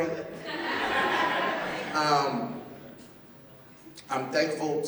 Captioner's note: laughter